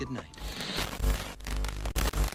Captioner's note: static crackling